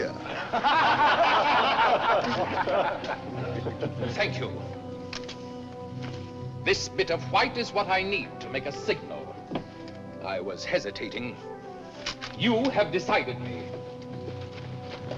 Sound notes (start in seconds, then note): 0.2 laughter